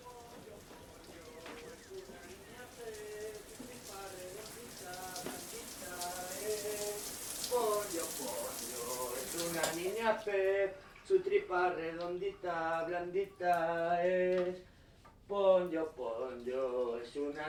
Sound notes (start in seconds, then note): 0.1 singing in the shower; 4.9 shower; 10.4 shower stops